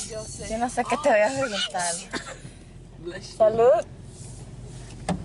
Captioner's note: speaks in foreign language